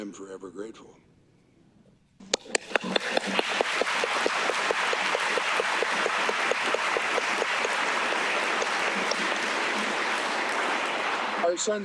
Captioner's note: applause